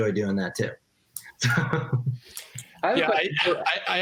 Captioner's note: laughs